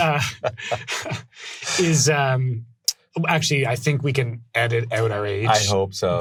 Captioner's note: laughing; laughs